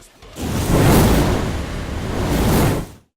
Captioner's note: sizzling fire sound